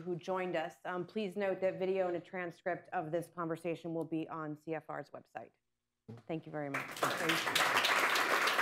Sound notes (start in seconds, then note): 6.6 applause